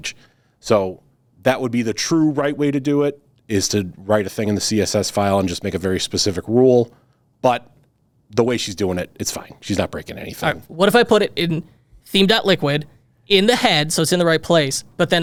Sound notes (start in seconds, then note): none